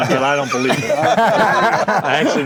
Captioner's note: group laughing